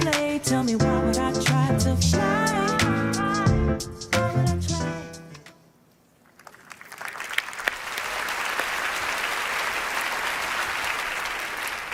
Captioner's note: applause